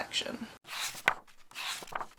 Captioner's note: pages turning